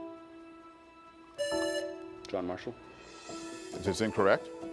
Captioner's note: buzzer buzzing